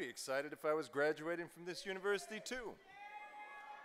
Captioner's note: cheers and applause